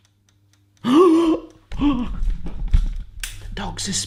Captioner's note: gasping